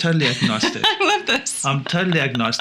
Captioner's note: laughs